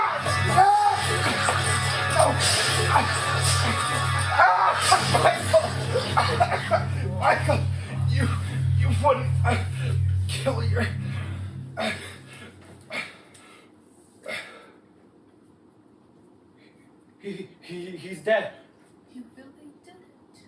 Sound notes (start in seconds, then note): 0.2 Springlocks snapping, blood gushing, screaming; 6.0 coughing; 9.4 coughing; 11.4 William losing air